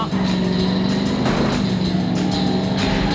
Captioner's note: tires squealing